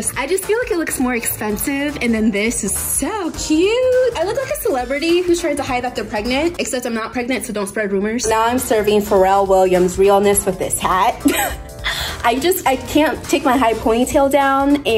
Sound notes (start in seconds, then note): 11.2 laughs